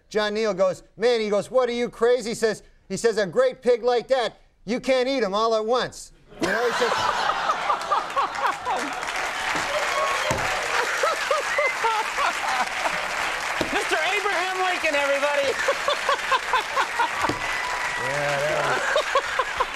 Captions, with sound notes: John Neal goes, "Man," he goes, "what are you crazy?" He says, he says, "A great pig like that, you can't eat him all at once." (Conan laughing) (audience applauding) Mr. Abraham Lincoln, everybody. (laughs) Yeah, that was...